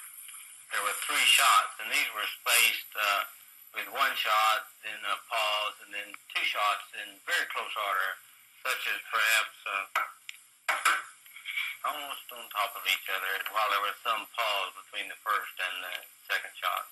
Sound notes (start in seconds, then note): 8.6 knock ... knock-knock